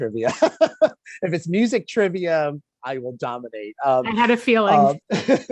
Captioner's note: laughing